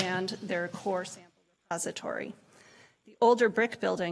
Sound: audio cuts out

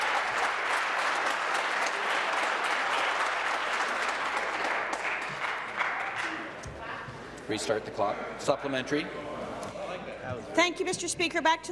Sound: applause

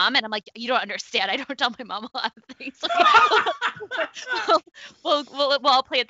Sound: laughs

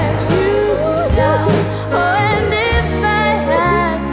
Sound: Heidi cries

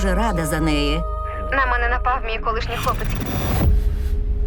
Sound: woman 4 on phone

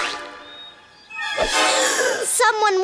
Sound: gasps

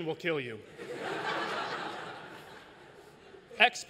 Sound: laughter

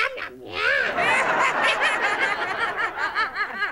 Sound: laughter

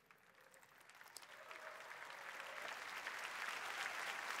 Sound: applause

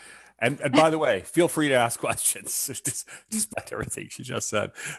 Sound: laughs

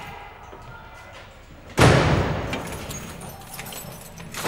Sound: Cody's cell shuts

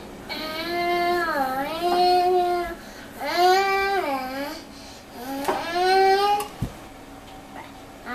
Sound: mixing noises

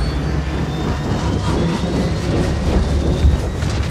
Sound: whirring; hissing

